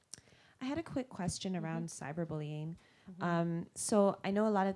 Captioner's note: voiceover